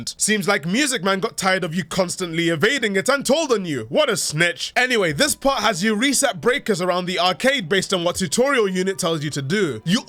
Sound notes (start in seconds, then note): none